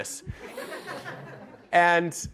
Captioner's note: audience laughter